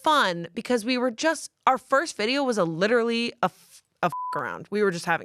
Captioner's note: beep